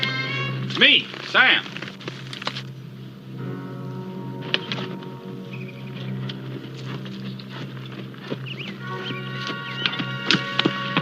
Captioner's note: hoofbeats approaching